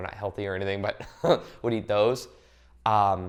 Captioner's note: laughs